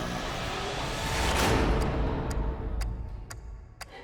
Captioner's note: clock ticking